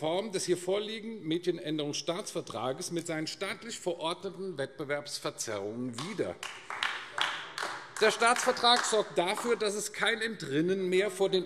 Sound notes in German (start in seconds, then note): 5.9 Beifall AfD